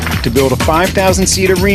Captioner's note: applause